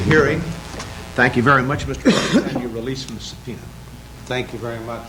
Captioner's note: unidentified cough